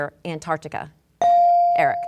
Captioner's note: bell dinging